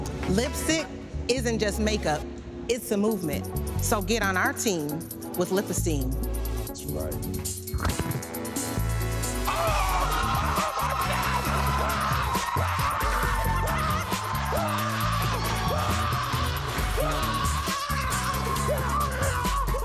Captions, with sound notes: Lipstick, isn't just makeup. It's a movement. So get on our team with Lip Esteem. - That's right. (yelling and cheering)